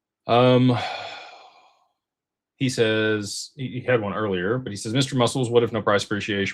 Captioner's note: sighs